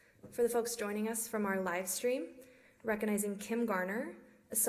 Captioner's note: none